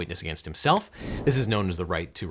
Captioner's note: air whooshing